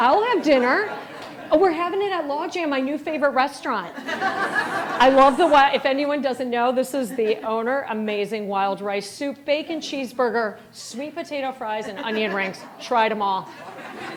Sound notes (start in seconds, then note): 3.9 all laughing